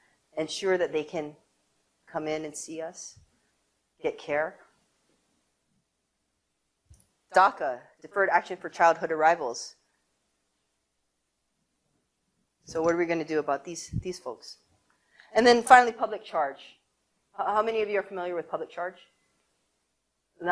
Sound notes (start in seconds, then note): none